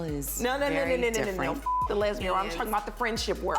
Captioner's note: beep